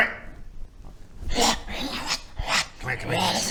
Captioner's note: hrrwrgh rrgrra wahh